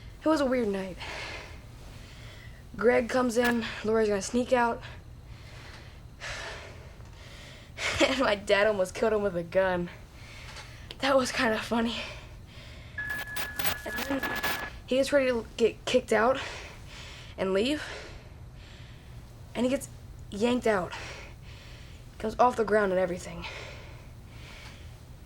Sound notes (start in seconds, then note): 13.0 buzzing